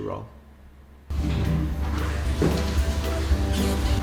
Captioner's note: toilet flushing